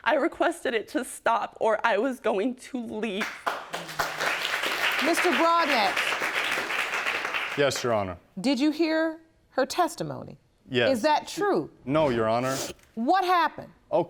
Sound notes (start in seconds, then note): 3.2 audience applauding